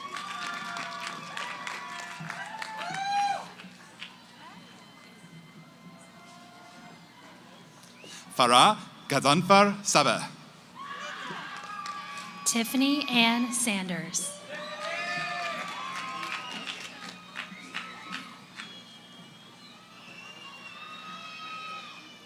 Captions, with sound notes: [ Cheering ] >> Farah Ghazanfar Sabeh. >> Tiffany Anne Sanders. [ Cheering ]